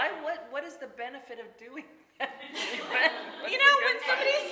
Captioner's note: laughing